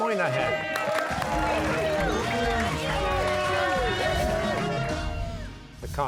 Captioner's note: cheers and applause